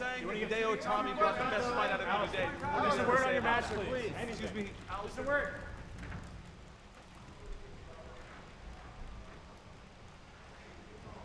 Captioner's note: crowd chatter